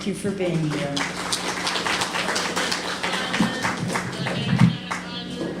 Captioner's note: applause